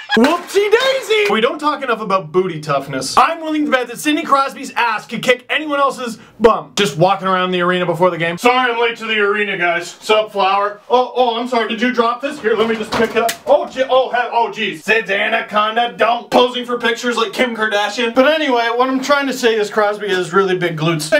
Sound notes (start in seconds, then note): 12.9 crashing sound; 14.7 singing